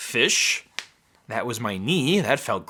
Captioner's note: cracking